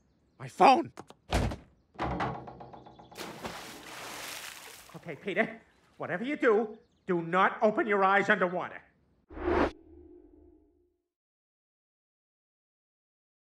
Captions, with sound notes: My phone?! *door shuts* *splash* *muffled voice* Ok Peter whatever you do do not open your eyes underwater